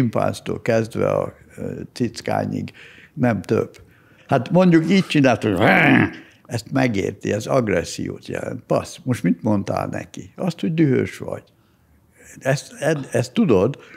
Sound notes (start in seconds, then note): 5.5 snarling